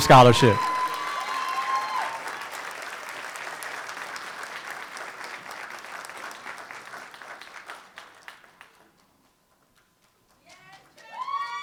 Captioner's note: applause